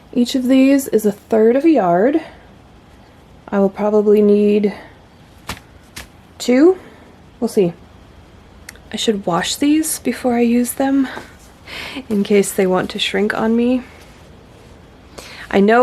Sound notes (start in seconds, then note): none